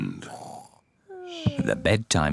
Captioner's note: both snore